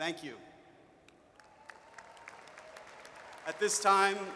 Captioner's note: audience cheers